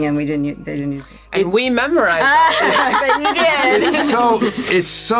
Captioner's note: laughs